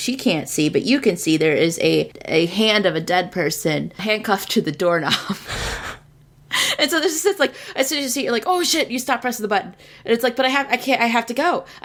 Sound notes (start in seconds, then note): 5.5 laughs